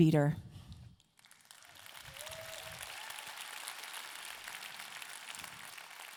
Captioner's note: audience clapping and cheering